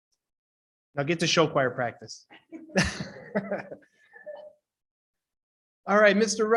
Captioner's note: laughs